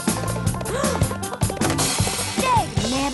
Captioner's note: gasps